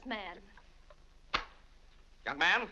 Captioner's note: wallet slaps shut